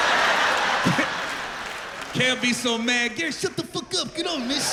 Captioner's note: laughter